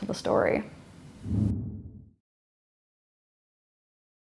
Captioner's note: air whooshing